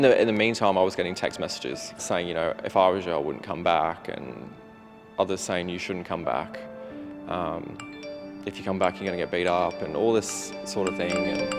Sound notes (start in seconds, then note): 7.8 cellphone dings